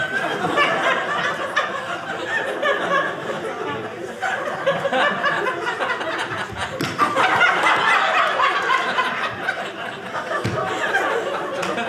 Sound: audience laughing

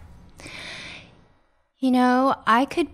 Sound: deep inhale

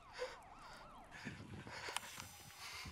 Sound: sobbing

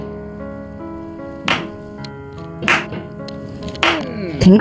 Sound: slow Clapping

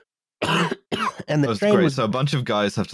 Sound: coughs

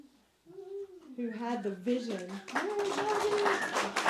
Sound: applause

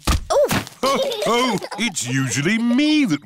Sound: others laugh

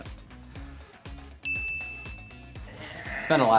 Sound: bell chimes

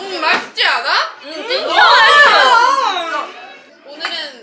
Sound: Fimmies make loud reactions♡

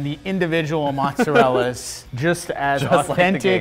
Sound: laughs

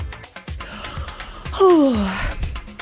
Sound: yawn

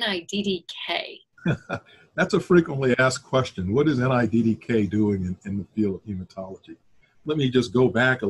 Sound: chuckle

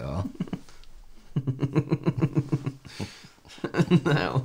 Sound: inside Laughter

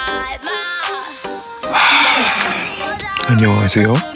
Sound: sigh

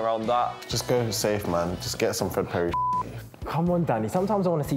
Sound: beep

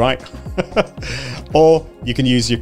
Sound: chuckles

